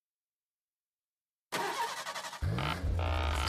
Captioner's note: engine starting